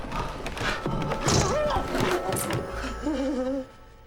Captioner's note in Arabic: جلجل، يصرخ; يضحك